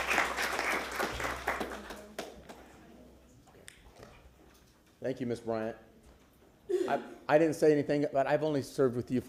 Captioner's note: applause